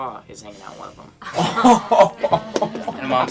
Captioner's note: laughing